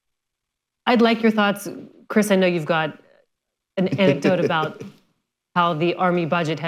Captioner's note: laughter